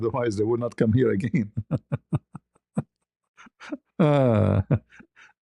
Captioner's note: ketawa